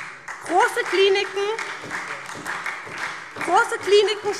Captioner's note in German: Beifall SPD und DIE LINKE